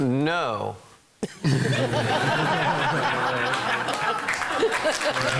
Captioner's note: laughing; clapping